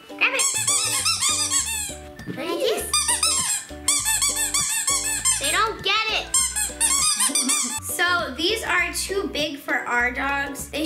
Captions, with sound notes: Grab it. (toy squeaks) They don't get it. So these are too big for our dogs.